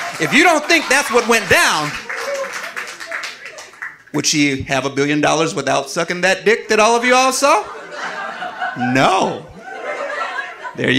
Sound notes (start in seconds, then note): 7.4 audience laughing